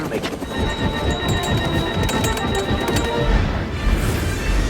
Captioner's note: alarms beep